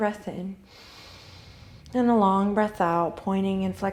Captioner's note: deep inhale